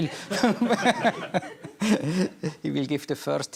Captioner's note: laughter